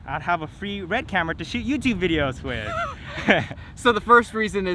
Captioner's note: both laughing